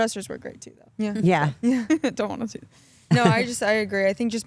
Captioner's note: laughs